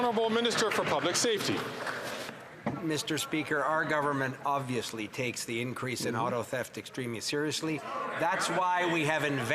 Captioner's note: some Applause